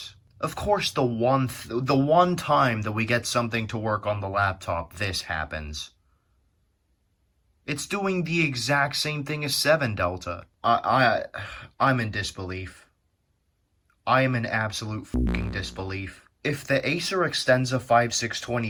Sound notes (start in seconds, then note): 11.4 sigh